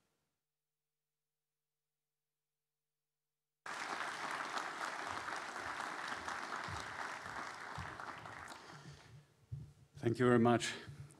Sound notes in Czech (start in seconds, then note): 8.9 potlesk